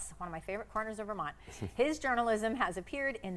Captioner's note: laughs